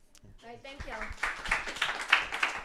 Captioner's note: applause